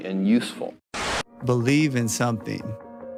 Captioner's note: static